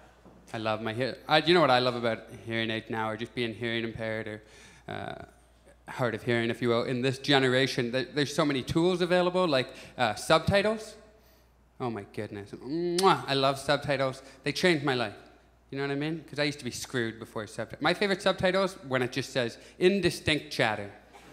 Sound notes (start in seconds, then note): 12.9 kiss sound